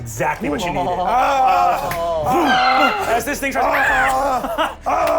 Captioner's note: overlapping screaming